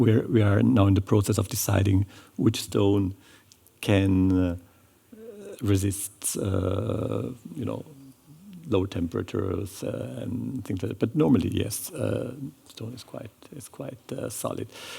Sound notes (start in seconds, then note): none